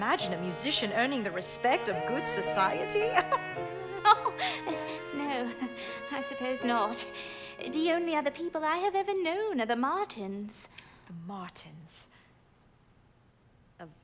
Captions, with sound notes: Can you imagine a musician earning the respect of good society? (they laugh) No, I suppose not. The only other people I have ever known are the Martins. The Martins